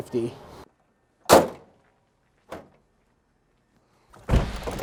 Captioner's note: hood slams